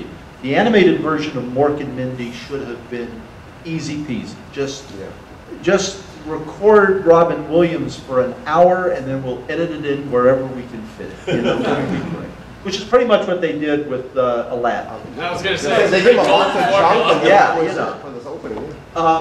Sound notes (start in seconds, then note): 11.2 audience laughter; 15.1 audience murmur